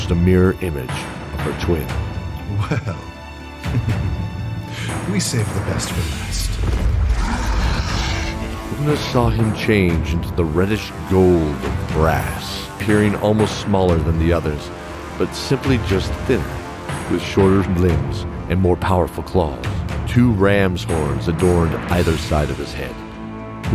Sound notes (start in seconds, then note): 2.4 chuckle